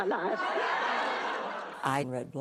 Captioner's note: laughs